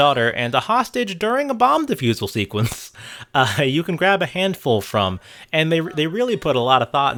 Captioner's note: laughs